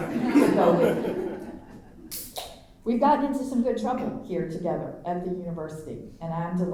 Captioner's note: laughter